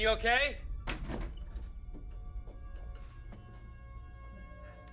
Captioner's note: door opens